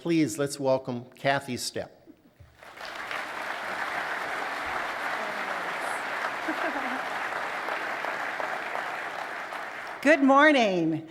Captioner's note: applause